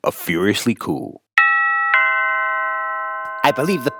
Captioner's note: doorbell rings